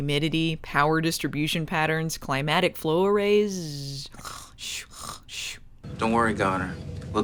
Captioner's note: snoozes